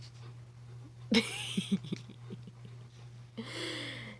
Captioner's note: small chuckle